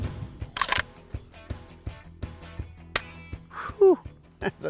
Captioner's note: gun cocking